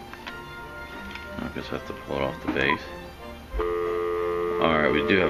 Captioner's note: dial tone heard on speaker